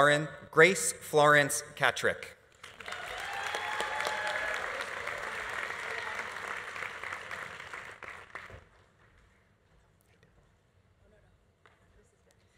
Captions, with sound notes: Grace Florence Katrick. (audience applauding) (audience cheering)